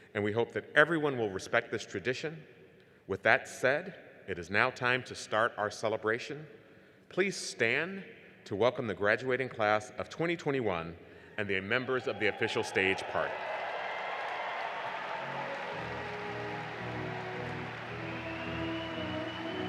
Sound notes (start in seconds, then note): 13.8 crowd cheering; 16.7 jubilant music